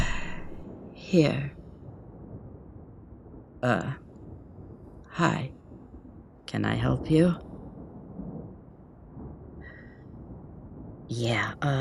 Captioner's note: natural voice